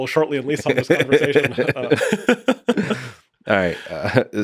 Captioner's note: both laughing